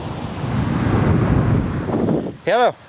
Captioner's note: wind gusting loudly